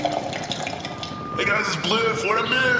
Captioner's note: slurping noises, mic feedback